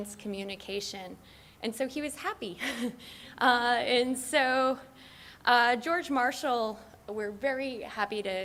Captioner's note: laughs